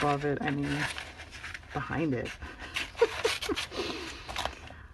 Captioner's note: laughs